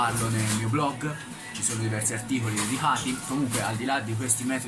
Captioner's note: still in italian language...sorry!